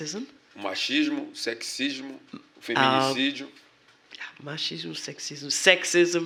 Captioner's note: speaking portuguese